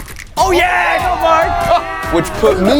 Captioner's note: people cheering